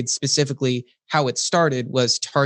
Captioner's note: none